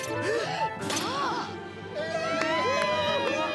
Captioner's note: applause